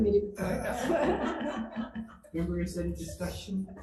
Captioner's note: laughing